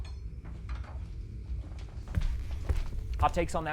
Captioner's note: metal clanging